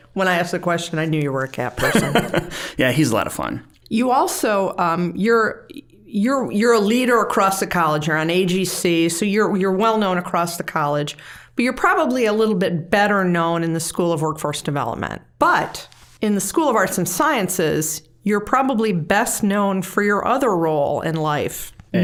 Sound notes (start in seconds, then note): 1.8 chuckling